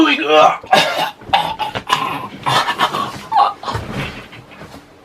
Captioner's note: choking sounds